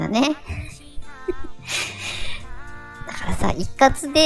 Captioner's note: laugh